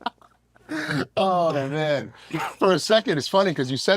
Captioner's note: laugh